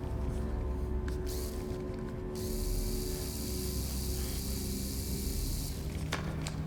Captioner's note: screwdriver whirring